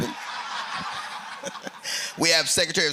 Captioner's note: laughter